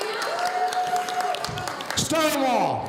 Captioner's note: audience applauding